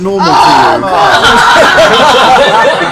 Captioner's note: laughter; groans